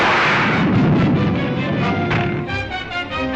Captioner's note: dramatic music; metal crashes; fire whooshes; door thuds